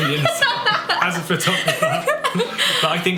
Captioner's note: laughs